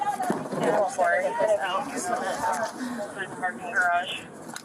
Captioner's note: radio chatter